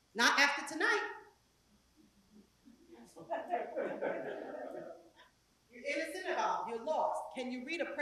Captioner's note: laugh